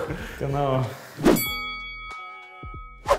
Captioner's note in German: Boxring-Glocke